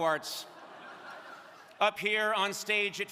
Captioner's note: crowd laughing